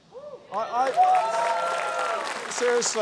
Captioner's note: cheering, applause